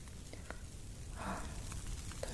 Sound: sighs

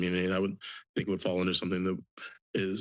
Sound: stutters

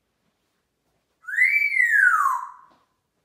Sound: whistling

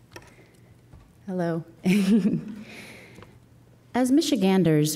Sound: laughing

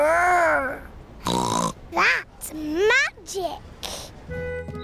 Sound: snorts

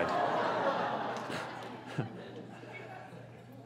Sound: audience laughs

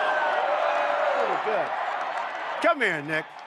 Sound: applause

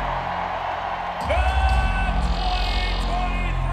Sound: cheers and applause

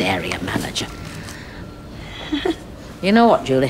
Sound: laughs awkwardly

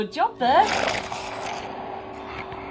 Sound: growls

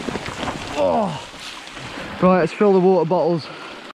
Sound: groans

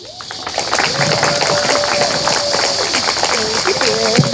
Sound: audience applauding and cheering

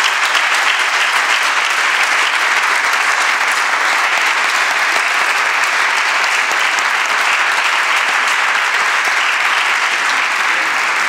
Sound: applause

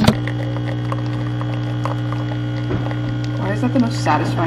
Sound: coffee machine buzzing

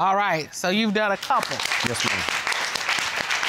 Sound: with irony

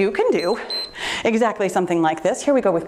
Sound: timer beeps

